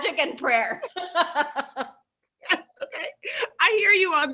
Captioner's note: both laugh